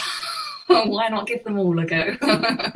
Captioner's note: laughs